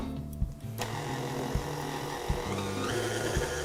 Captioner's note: whirring